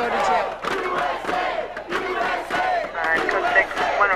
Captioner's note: chants